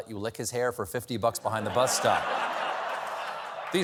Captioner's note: laughter